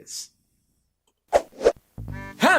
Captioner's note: whoosh